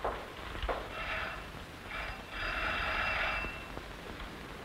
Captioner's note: alarm